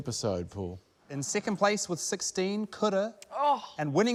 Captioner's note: groans